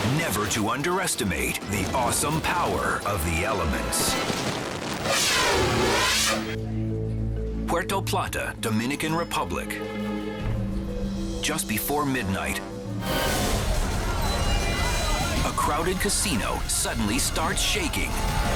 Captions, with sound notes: never to underestimate the awesome power of the elements. (air whooshes) Puerto Plata, Dominican Republic. Just before midnight- (earthquake rumbles) a crowded casino suddenly starts shaking,